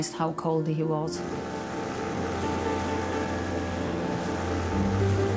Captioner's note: lifeboat engine whirring; uplifting instrumental music